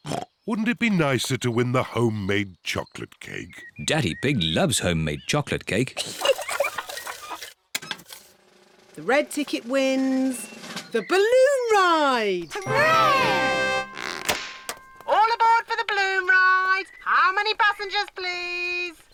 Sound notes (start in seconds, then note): 0.0 oinks; 6.0 giggles